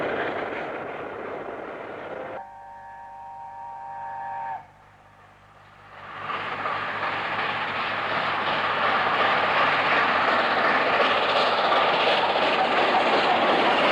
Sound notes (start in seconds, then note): 5.3 train horn; 9.8 train passes